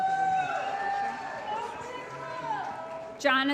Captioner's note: applause & Cheering